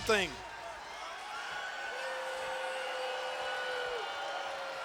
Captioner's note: crowd murmuring